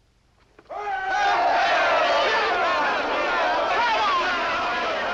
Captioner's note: shouts of hurray and congratulation